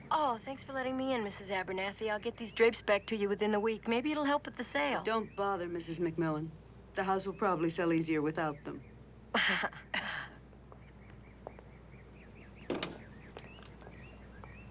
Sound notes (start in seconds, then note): 9.4 tittering